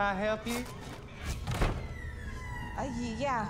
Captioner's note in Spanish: Crujiendo